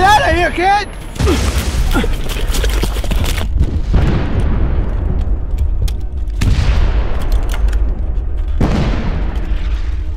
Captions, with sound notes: Get outta here, kid! (Allan grunting) (gunshots booming)